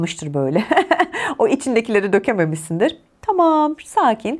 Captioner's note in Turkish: kahkaha